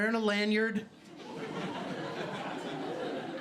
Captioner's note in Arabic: ضحك